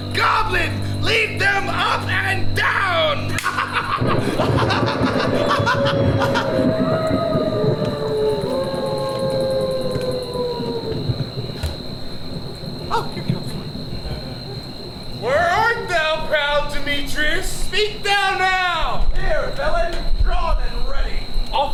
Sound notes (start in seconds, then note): 3.4 laughs; 4.2 thunder cracks; 5.8 wolves howling